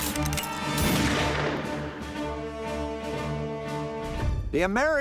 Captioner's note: gunfire